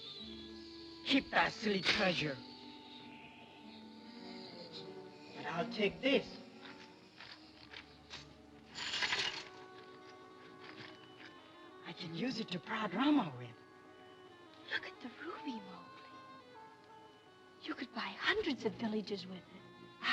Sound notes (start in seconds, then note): 8.6 metal trinkets clinking